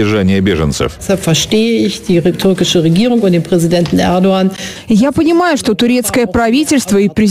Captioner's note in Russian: Речь по-немецки